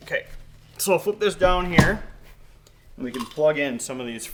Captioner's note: case thudding